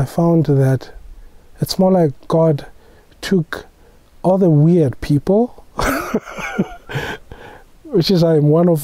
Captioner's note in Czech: smích